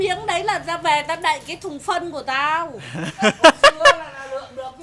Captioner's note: laugh